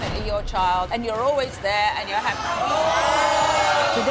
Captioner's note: crowd yelling